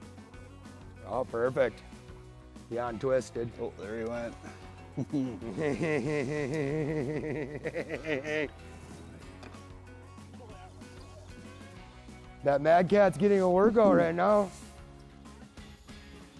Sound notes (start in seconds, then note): 4.3 chuckles; 9.7 gentle country music